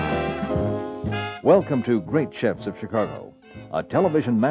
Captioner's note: voiceover